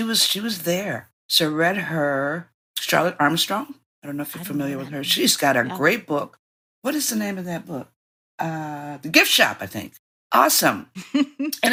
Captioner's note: laughing